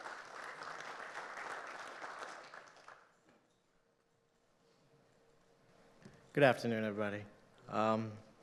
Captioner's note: applause